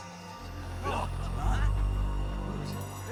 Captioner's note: eerie music; soldiers gasping